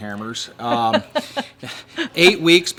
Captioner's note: laughing